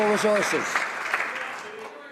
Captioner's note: some Applause